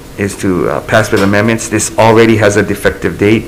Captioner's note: gavel bangs